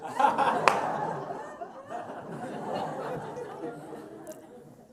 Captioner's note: laughter